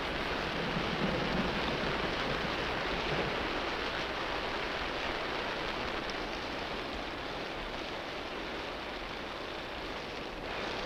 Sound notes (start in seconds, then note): 1.1 rain pattering